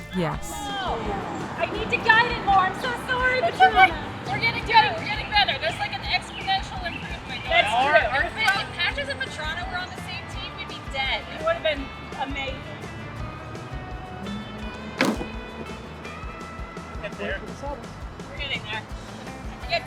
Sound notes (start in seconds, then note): 15.0 disk thudding